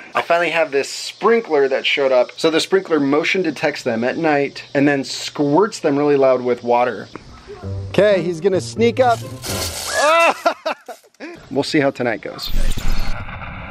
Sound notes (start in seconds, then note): 9.9 laughs